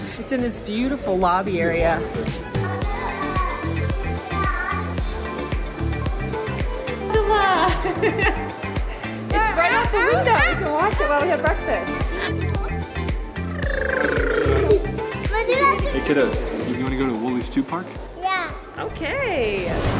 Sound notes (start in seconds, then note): 2.2 upbeat music; 7.0 laughs; 13.4 blows raspberry; 19.8 upbeat music